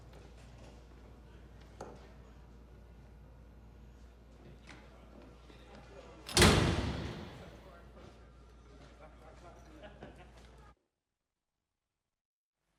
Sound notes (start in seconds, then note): 6.2 door slams